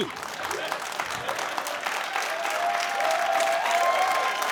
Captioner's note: cheering and applause